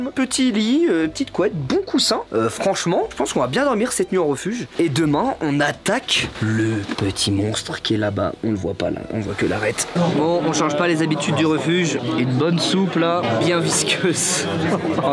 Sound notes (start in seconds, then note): 14.5 laugh